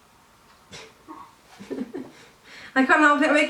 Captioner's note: laughing